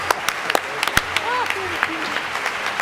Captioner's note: laughing; applause